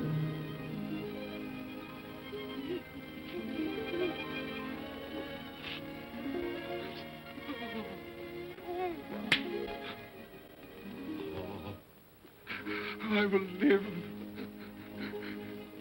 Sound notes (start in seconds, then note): 0.1 sentimental music; 2.3 Scrooge sobs; 9.2 claps hands together